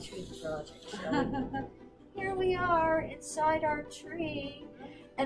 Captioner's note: laughs